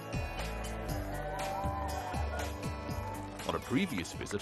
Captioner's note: people cheering